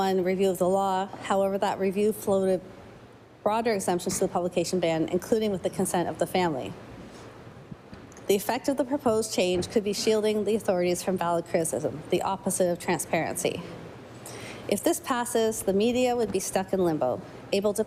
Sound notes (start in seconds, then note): none